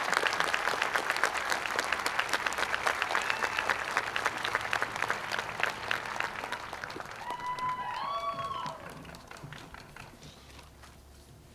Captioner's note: cheers and applause